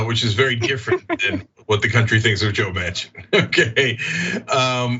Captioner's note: laugh